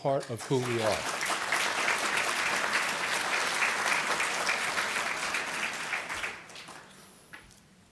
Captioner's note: applause